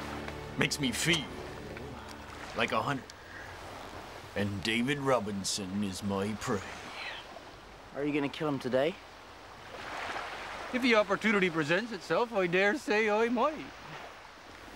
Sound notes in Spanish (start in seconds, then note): none